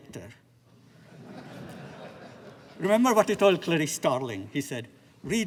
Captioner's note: laughter